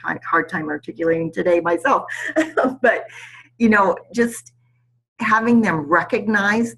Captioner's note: laughs